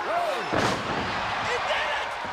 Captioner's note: crowd cheering; wrestlers thudding